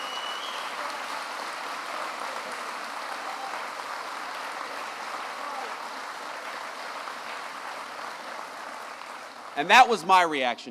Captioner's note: applause